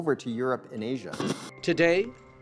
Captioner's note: static buzzing